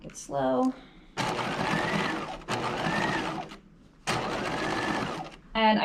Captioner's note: sewing machine whirring